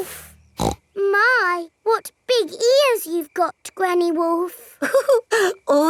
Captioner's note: snorts; chuckles